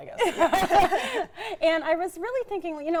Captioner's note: both laughing